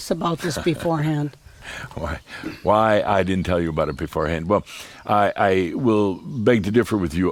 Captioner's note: chuckles